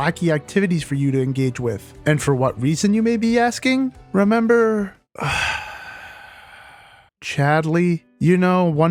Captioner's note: sigh